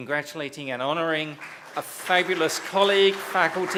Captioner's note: applause